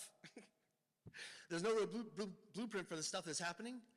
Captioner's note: laughs